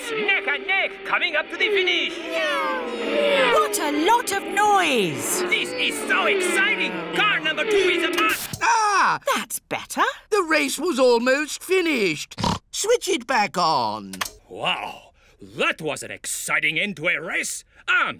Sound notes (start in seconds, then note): 8.7 gasps; 12.3 snorts